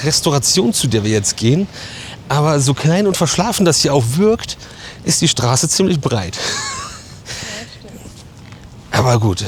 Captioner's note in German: gelächter